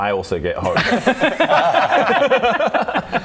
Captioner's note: hopeful laughter